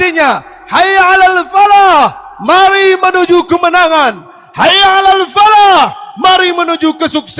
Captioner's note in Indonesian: berteriak